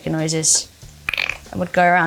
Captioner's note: Bella throat clicking